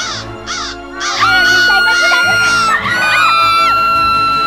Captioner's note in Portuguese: gritos